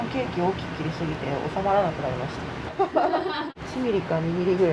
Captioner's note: laughs